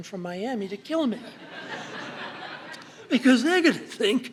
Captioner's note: laughter